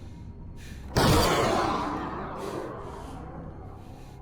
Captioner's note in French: tirs d'armes à feu; musique tendue